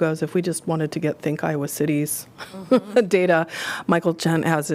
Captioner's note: laughter